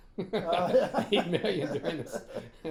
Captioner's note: laughing